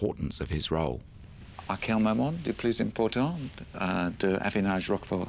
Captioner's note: speaks in french